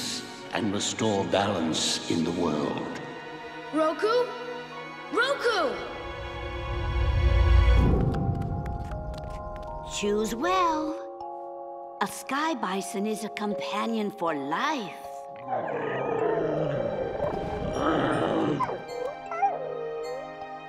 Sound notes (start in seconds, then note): 15.4 grunting